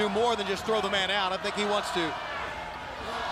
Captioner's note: crowd chatter